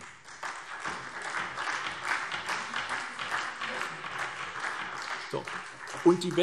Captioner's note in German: Beifall SPD und DIE LINKE